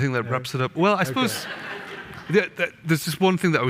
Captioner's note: audience laughing